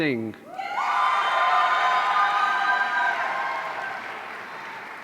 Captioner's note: audience cheering